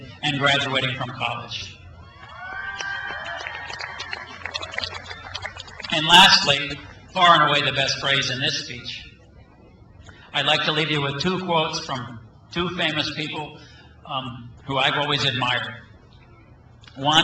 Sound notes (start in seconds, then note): 1.8 crowd cheers